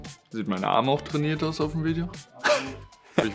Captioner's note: laughter